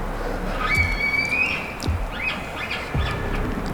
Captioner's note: caller bugling